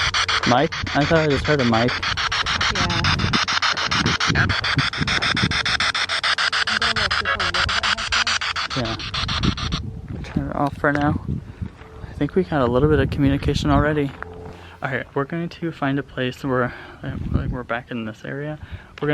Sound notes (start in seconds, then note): 5.0 spirit box sound